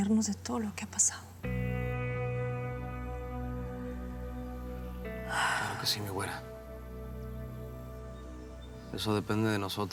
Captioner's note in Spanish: ella exhala